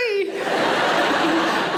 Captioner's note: audience laughing